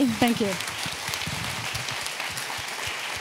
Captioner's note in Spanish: Aplausos